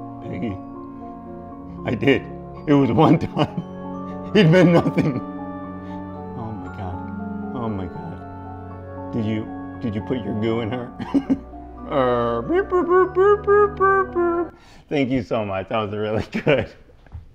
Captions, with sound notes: - Peggy, I did. It was one time, it meant nothing. - Oh my God. Oh my God. Did you, did you put your goo in her? (goofy moaning) - Thank you so much. That was really good.